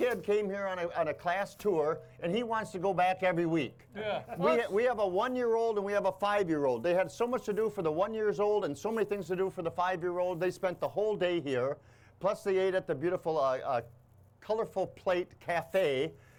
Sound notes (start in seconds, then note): 4.4 chuckles